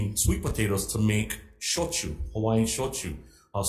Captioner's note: speaks in foreign language